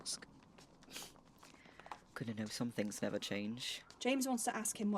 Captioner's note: Remus titters